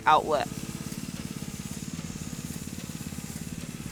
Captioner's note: machine roaring